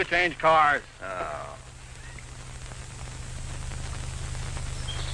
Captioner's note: officer groans